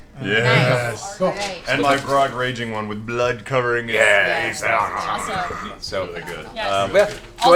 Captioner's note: growls